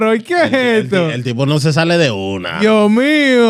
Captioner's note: speaking Spanish